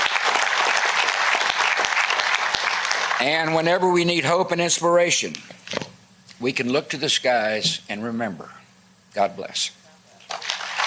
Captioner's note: applause